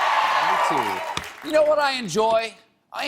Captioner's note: cheers and applause